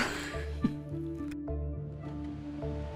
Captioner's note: laughs